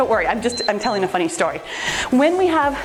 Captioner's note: timer beeps